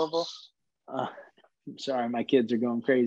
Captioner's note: kid yelling